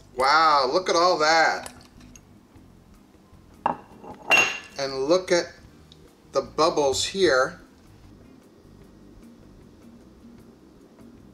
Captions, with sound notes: Wow, look at all that. (clanks) And look at the bubbles here.